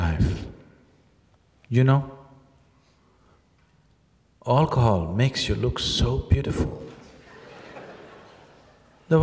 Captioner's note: laughter